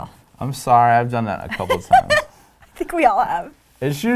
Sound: laughing

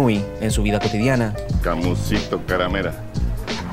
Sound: in Rapa Nui

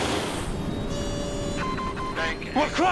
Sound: beeping

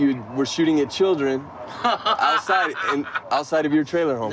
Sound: laughing

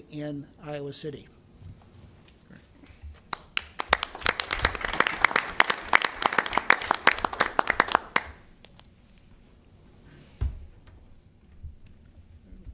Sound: applause

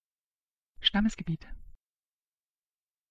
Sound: fast Pronunciation

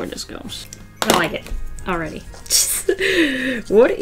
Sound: laughs

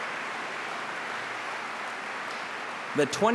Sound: applause

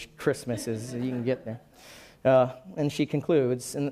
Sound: laughing

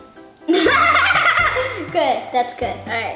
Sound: laughs

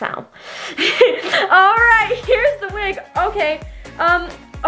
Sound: laughing

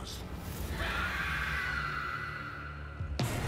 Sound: woman screams

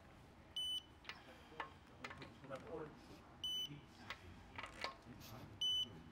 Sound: beeping

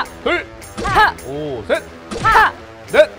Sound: shouts

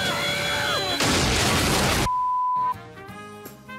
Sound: explosion; upbeat music

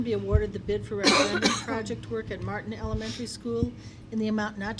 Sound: coughing

